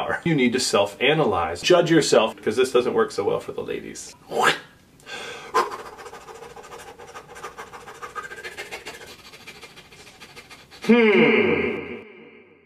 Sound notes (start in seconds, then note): 5.0 deep inhale; 5.1 many very quick breaths through mouth; 5.5 throat-slitting sound effect; 9.1 many very quick breaths through nose; 11.9 echoing